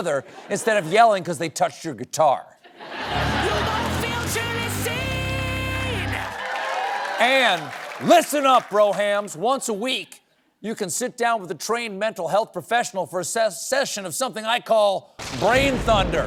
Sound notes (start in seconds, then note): 2.6 laughter; 2.8 cheering